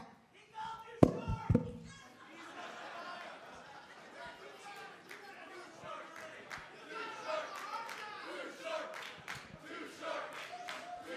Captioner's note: crowd chatter